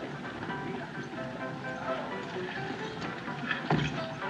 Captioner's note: honky-tonk Piano; people Chattering